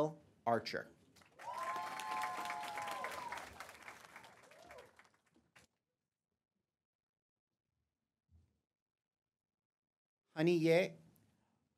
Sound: applause

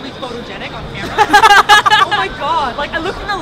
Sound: laugh

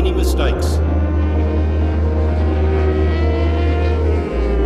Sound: motorcycles whirring

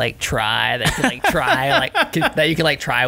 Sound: laughter

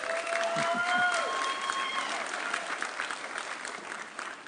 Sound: audience cheering

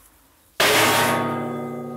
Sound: loud clanging

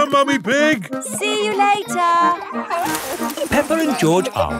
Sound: peppa and george laughing

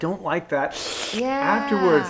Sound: sucking

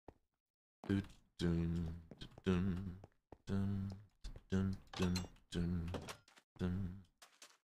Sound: hums

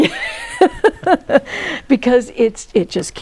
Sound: laughing

